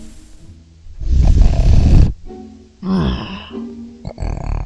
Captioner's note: snoring